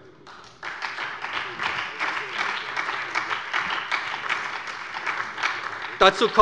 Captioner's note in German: Beifall bei der SPD